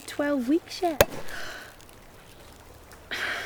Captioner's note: popping; gasping